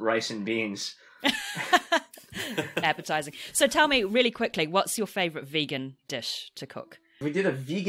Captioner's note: laughs